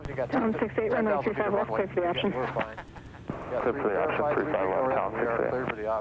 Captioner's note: air craft radio communication